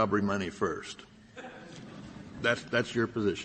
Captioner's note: laughter